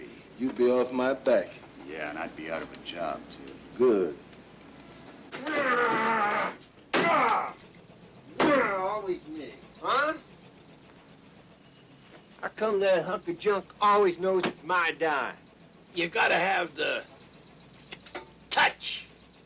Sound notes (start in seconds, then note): 6.8 machine thuds; 7.0 Slim grunting